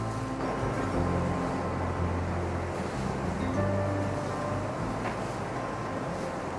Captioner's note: gentle music fades; wind whistling